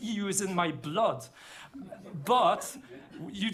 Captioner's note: laughter